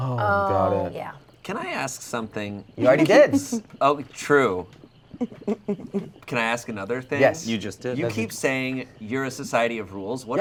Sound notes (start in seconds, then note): 5.1 giggling